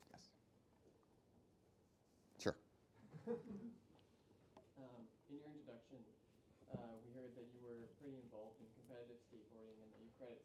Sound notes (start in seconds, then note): 3.1 laughs